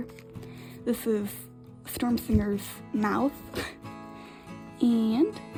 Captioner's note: laughs